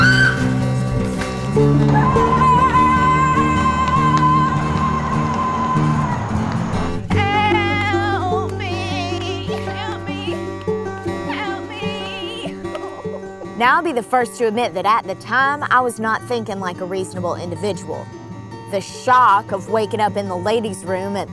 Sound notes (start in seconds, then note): 0.3 Ferra screaming; 12.1 whining